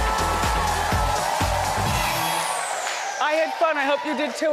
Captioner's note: audience cheering; upbeat music